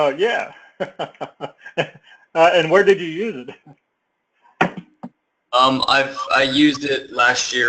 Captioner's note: laugh